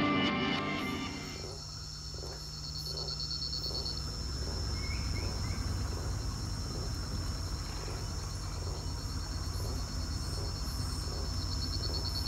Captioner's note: sounds of amazon